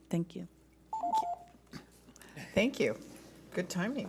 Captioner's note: timer dings